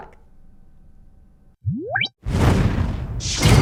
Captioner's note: whooshing sounds